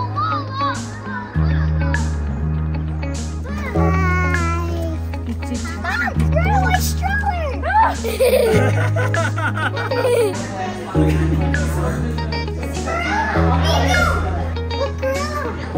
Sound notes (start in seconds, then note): 0.0 kids screaming; 7.5 mom screech; 9.3 laughing